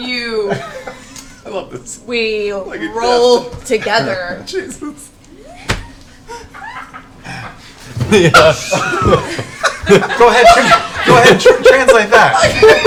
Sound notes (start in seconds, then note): 4.9 laughs; 6.2 laughter